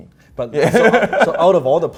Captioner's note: laughs